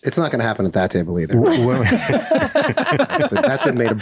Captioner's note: all laugh